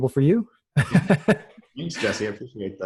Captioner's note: laughing